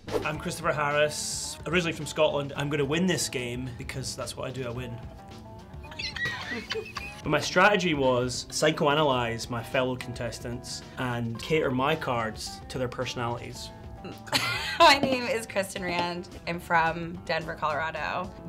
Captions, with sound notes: - I'm Christopher Harress, originally from Scotland. I'm going to win this game because that's what I do. I win. (laughter in background) - My strategy was psychoanalyze my fellow contestants and cater my cards to their personalities. - My name is Kristin Rand. I'm from Denver, Colorado